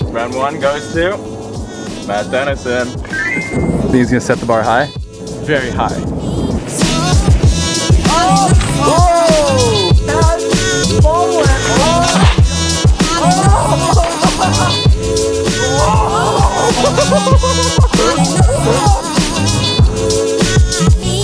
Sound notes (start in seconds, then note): 6.8 upbeat urban music; 16.2 laughter; 17.9 upbeat urban music